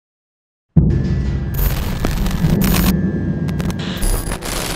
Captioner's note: electricity rattles